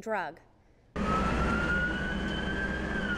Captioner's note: sirens